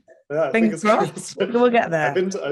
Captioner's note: laughing